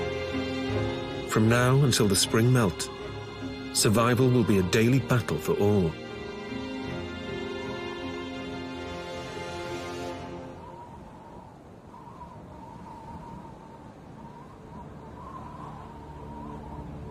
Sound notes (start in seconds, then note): 0.0 melancholic music; 11.1 wind blowing